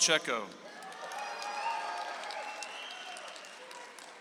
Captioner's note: audience applauds